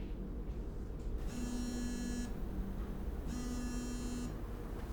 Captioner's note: phone rings, buzzes